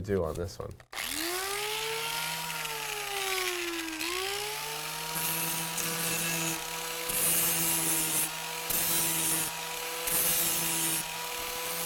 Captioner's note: sound of drill